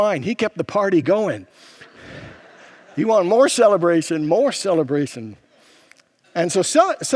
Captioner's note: congregants laugh